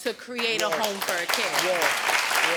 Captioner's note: audience applauding